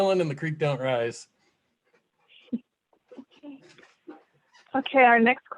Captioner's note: laughter